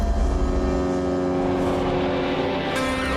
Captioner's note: engines hum